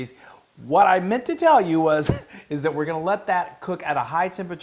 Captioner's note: laugh